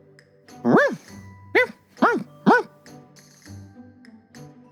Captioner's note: barking